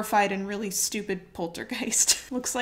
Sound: chuckles

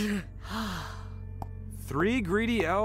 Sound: sighs

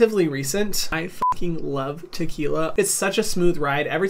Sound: beep

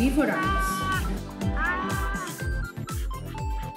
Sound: me screaming in pain

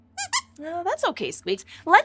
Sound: squeaks squeaks

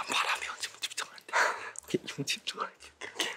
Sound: in pain

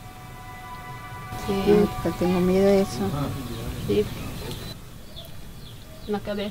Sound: speaking in a foreign language

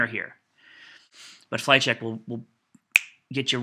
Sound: snaps

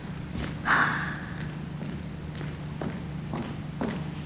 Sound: foot steps receding; foot steps receding

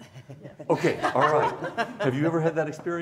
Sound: laughing

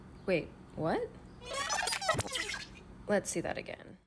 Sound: record scratch

